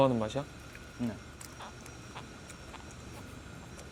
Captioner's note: nom nom